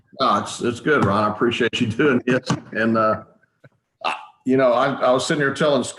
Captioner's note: chuckles